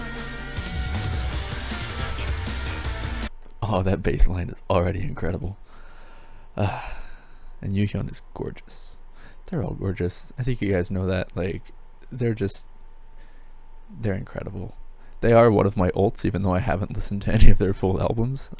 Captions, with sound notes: Oh that bassline is already incredible! [sigh] And Yoohyeon is gorgeous. They're all gorgeous. I think you guys know that, like, they're just they're incredible. They are one of my ults even though I haven't listened to any of their full albums.